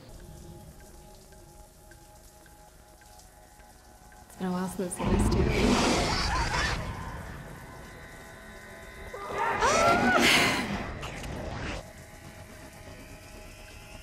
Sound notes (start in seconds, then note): 0.1 water rushing; 5.6 Demogorgon roaring; 6.3 Nancy screaming; 9.3 Natalia pretends to yell then laughs